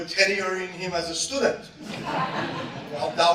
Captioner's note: soft laughter